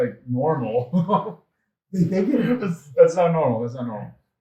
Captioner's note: laughs out loud